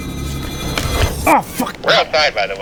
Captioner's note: equipment banging